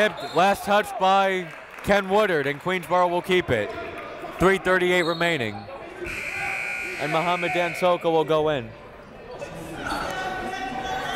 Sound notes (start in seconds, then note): 0.1 whistle; 6.0 whistle; 6.0 buzzer